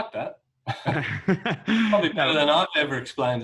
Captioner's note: laughing